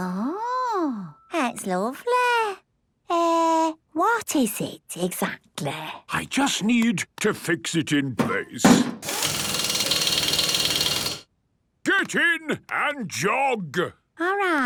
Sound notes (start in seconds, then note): 8.7 drilling